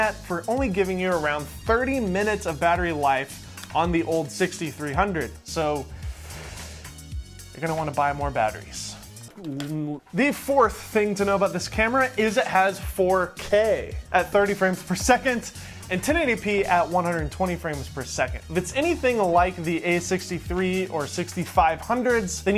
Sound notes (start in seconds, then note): 5.9 cringey inhale; 9.2 groans